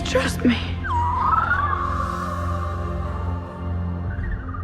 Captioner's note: Ochi chirping